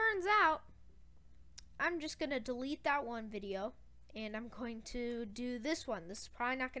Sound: lipsmack

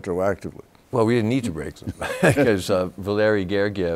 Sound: both laugh

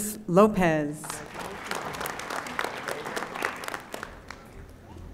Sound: audience applauding

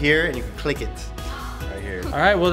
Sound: gasps

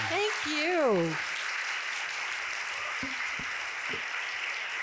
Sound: audience clapping

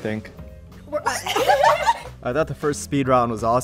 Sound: laughs

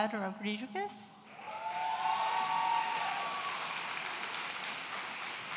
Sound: audience cheering

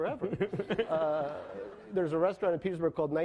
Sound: laughing

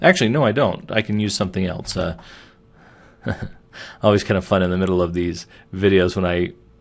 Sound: chuckling

